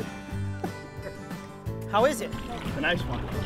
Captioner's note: laughing